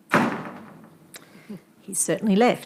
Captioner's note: door slams